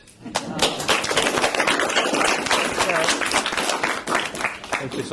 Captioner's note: applause